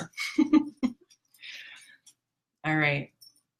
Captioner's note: giggles